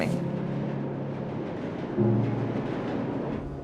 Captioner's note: train driving